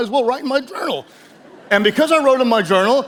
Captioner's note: audience chuckles